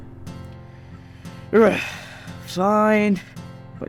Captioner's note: sigh